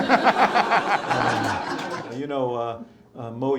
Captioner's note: laughter